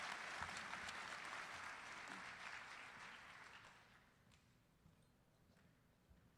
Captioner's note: applause